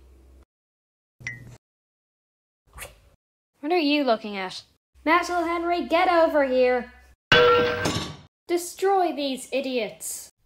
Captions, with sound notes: What are you looking at? METAL HENRY GET OVER HERE! [BONK] Destroy these idiots!